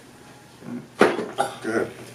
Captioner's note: neck pops